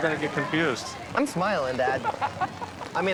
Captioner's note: laughs